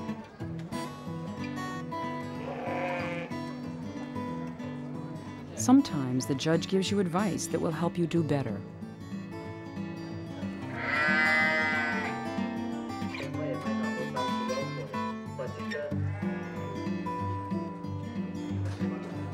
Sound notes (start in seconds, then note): 10.6 bleating